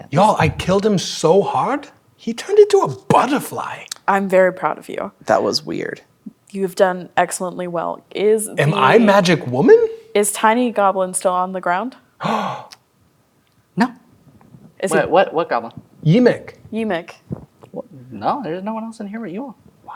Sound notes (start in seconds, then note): 12.2 gasps